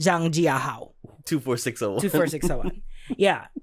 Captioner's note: giggles